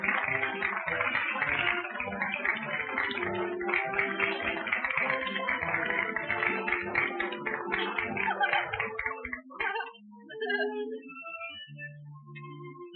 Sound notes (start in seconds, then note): 0.0 orchestra continues playing; 7.7 giggling